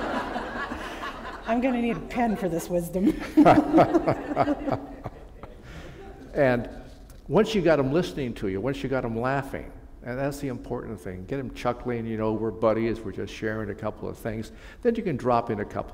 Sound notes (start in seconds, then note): 0.0 laughter; 4.4 chuckle